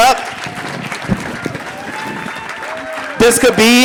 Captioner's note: audience applauding